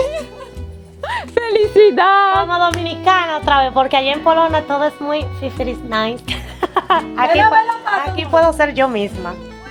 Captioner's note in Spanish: risas